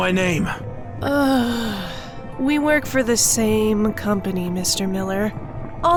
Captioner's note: sighing